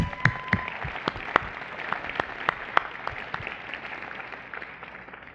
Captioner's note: applause